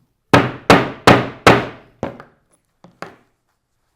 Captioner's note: mallet thudding